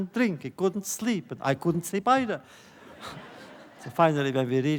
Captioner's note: laughter